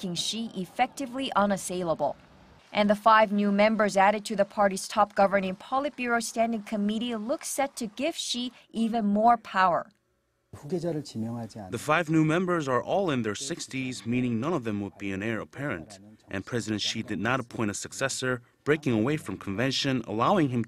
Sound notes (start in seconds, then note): 10.4 Korean